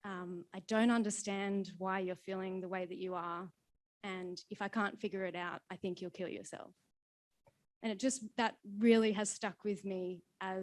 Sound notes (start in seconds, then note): none